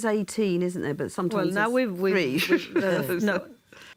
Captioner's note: laughs